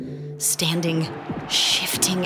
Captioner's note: crowd cheering